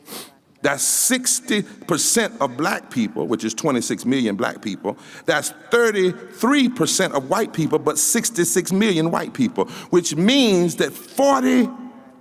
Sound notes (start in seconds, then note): none